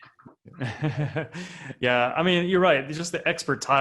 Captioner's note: laughs